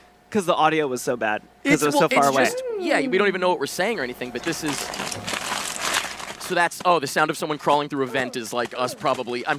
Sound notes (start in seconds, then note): 4.8 tinfoil crunching